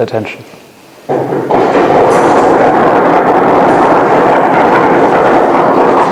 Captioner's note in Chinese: 引擎声